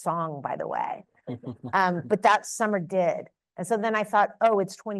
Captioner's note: chuckles